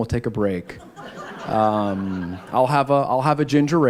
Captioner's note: laughter